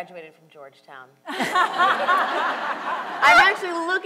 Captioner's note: panel and audience laughs